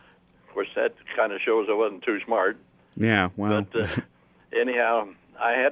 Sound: laughs

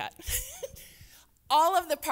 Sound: laughs

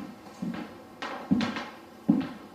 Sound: footsteps

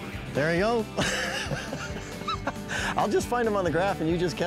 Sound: laughing

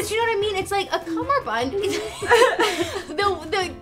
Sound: laughs

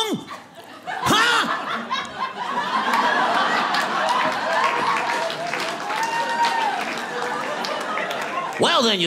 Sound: audience laughing

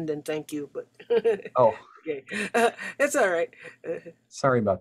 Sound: chuckles

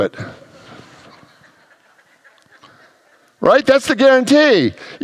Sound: congregants laugh

